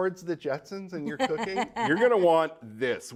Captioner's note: laughing